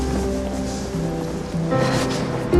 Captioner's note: none